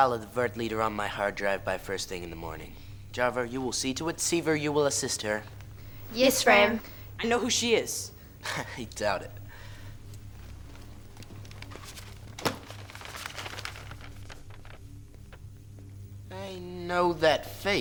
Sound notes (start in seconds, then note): 8.2 laughs; 12.2 poster unrolling